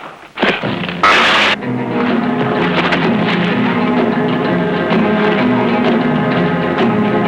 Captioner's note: dramatic music; buzzing